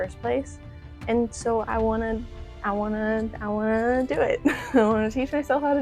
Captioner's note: laughter